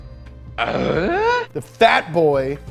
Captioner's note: grunting